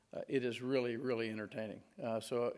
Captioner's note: none